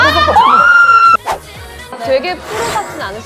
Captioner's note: swoosh